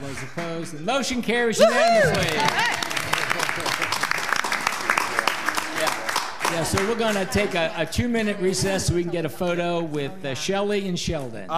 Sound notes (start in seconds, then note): 1.4 audience clapping and cheering